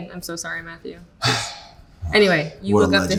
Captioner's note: Austin scoffing